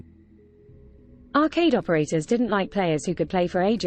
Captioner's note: british female voice